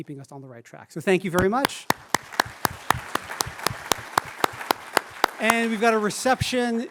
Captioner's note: applause